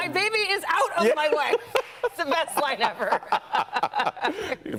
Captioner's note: laughter